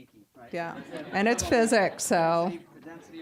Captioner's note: audience laughing